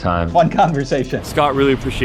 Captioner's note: laughs